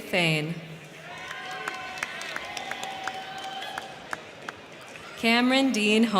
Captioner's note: crowd cheering; crowd clapping